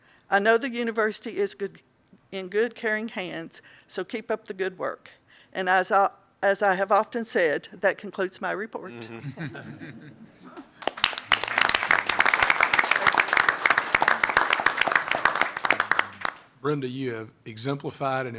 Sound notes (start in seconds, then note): 9.0 laughter; 10.8 applause